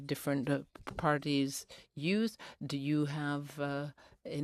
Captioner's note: speaking in french